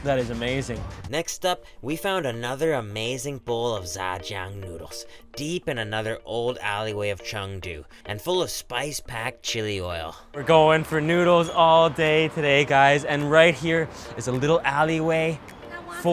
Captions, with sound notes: That is amazing. - [Voiceover] Next up, we found another amazing bowl of za-jung noodles deep in another old alleyway of Chengdu, and full of spice-packed chili oil. - We're goin' for noodles all day today, guys, and right here is a little alleyway